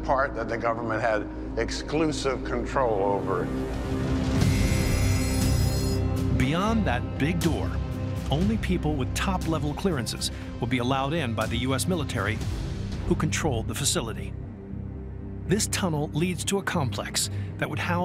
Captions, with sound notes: that the government had exclusive control over. [alarm blaring] - Beyond that big door, only people with top-level clearances would be allowed in by the U.S. military, who controlled the facility. This tunnel leads to a complex that would house